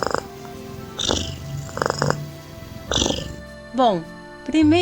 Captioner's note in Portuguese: ronrom